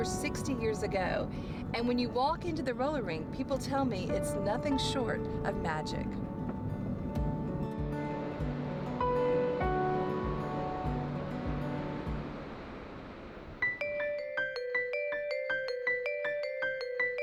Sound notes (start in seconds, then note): 8.7 peaceful music; 8.7 waves washing; 13.8 lively music